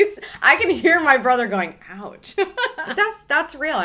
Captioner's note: laughs